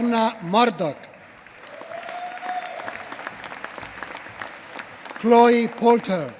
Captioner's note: applause